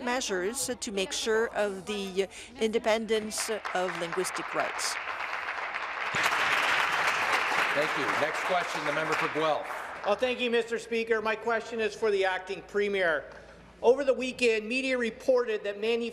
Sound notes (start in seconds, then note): 8.9 applause